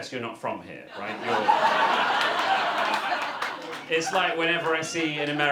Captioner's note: audience laughter